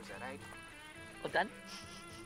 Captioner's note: sniffs